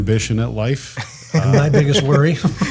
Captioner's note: laughs